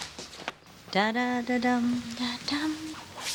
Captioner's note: humming